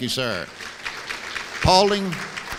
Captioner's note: applause